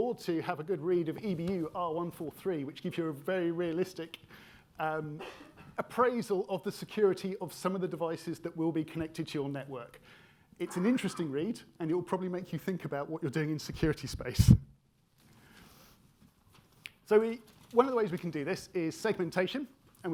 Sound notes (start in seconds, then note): 5.2 attendee coughing; 10.6 attendee coughing